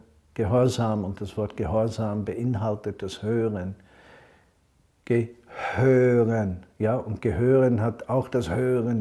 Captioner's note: in German